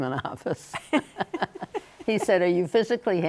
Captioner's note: both laugh